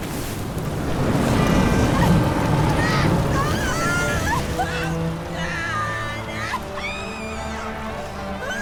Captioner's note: screaming